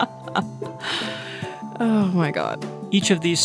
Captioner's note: laughter